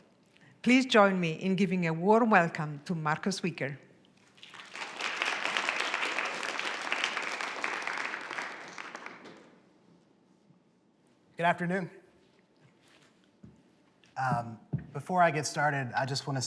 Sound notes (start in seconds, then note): 4.2 applause